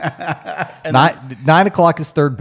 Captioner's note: laughs